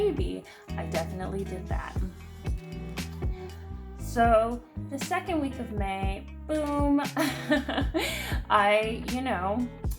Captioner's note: laughs